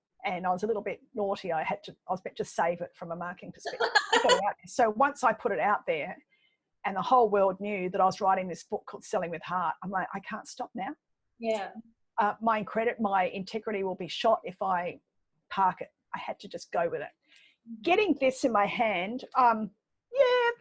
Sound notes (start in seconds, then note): 3.6 laughing